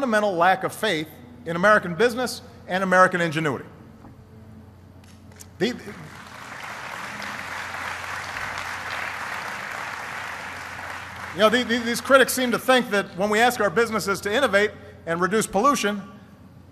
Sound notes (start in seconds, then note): 7.6 applause